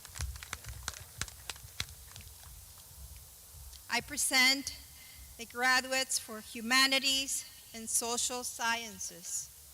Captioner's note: clapping